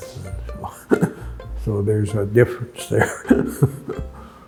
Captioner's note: chuckles